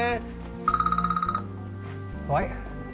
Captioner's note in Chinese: 來電鈴聲